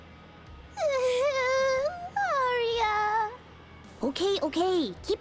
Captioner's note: sobs